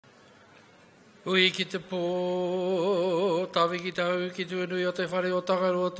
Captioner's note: speaking in foreign language